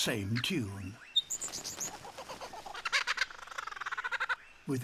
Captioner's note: chirps, hoots